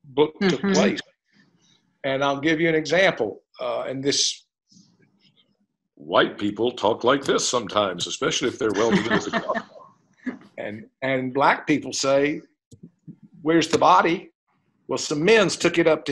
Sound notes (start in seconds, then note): 8.5 laughter